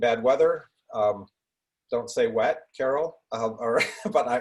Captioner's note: laughs